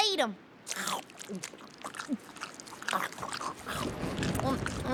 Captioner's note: slurping